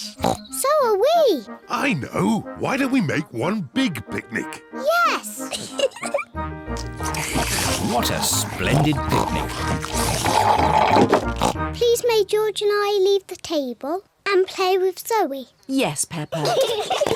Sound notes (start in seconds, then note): 16.3 all giggle